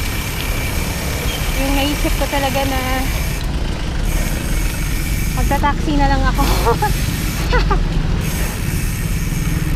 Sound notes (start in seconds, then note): 6.3 laughs